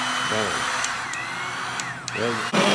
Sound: vriiiiiiiiiiiiiiiiiiiiiiiiiiiiiiiiiiiiiiiim; vruuuum; vroo

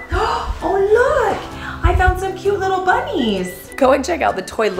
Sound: gasp

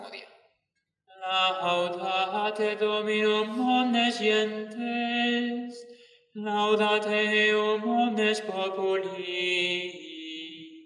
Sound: chant

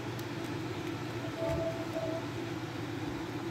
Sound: sound of the controller connecting to its console

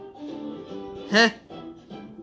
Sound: scoffs

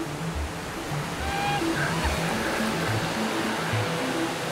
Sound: yelling, laughing, screaming

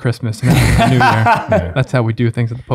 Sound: laughs

